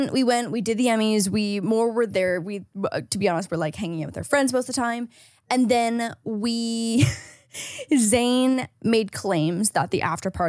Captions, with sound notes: We went, we did the Emmys. We more were there, we, to be honest, were like hanging out with our friends most of the time. And then we (laughs) Zane made claims that the after party was